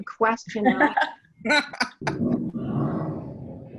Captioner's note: laughs